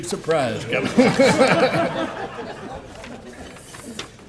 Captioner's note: laughter